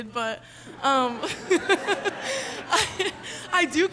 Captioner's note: laughs; audience laughing